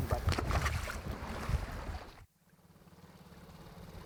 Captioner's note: water splashing softly; boat engine revving